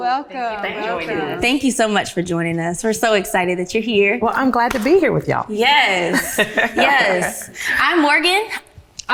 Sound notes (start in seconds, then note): 6.0 laughs